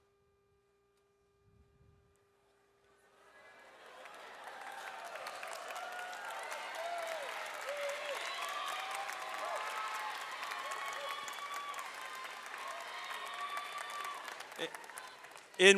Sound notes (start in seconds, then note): 3.9 audience applauds